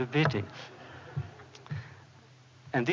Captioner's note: laughter